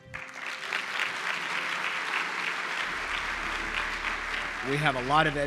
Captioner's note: applause